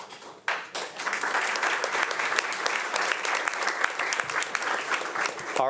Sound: audience applauding

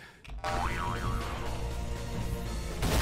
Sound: ultraboing

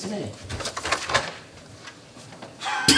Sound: door opens far too early

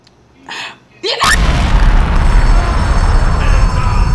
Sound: explosion

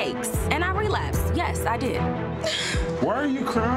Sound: cries

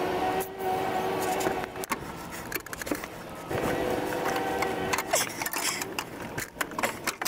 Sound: working Sounds

